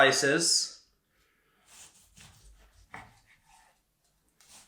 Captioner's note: steak cutting